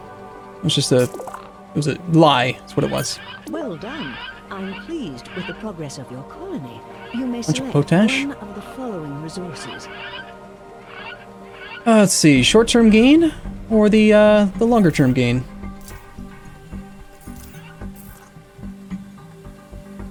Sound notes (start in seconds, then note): 8.3 game Audio continues